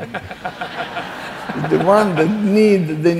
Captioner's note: laughing